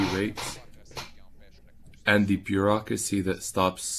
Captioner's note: speaking French